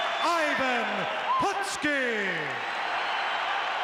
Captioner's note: crowd cheers